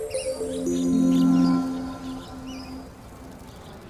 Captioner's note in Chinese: 鸟鸣声